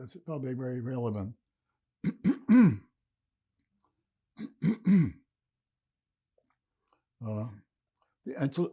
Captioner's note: clears throat